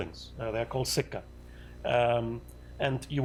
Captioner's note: non-english